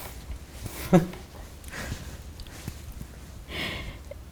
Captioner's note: laughs